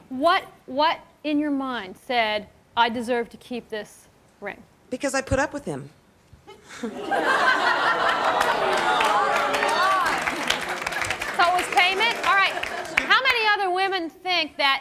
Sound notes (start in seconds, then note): 6.4 laughter